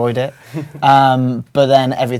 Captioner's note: laugh